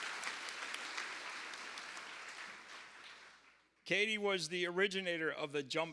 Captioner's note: cheers and applause